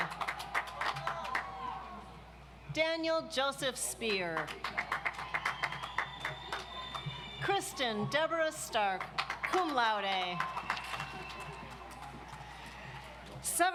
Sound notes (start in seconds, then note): 0.0 audience applauds; 4.3 audience applauds